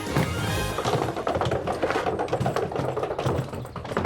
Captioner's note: rolling luggage